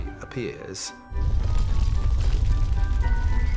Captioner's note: rumbling